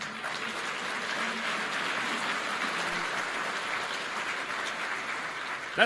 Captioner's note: applause